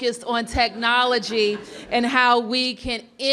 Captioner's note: laughter